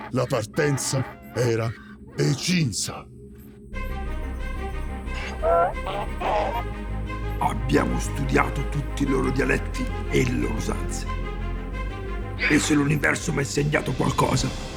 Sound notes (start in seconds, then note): 3.4 epic music playing; 5.1 Donkey's bray; 12.4 Donkey's bray